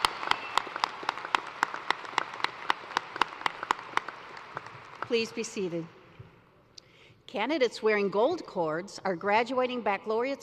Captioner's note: cheers and applause